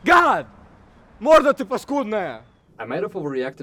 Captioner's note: russian exclaimation